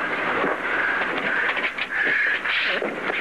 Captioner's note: blows